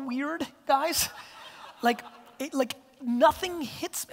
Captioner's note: audience laughter